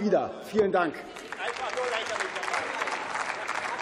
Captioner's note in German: Beifall